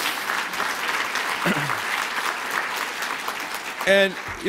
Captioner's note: applause